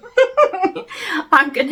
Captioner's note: giggles